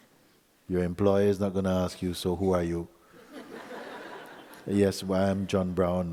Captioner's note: laughter